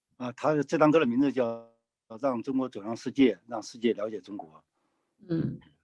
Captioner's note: speaking in foreign language